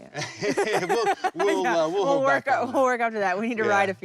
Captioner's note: laughter